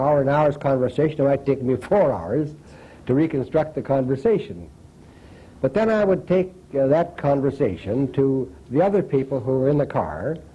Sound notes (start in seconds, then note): none